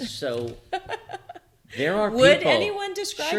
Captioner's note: laughs